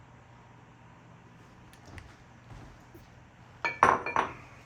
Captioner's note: silence